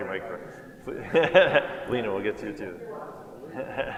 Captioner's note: laughs